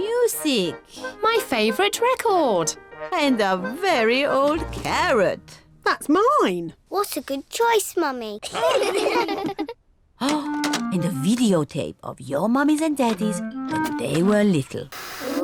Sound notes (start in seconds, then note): 8.4 all laugh